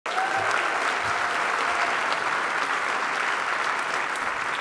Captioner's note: audience applauds